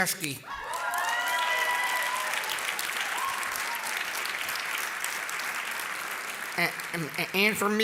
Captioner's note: applause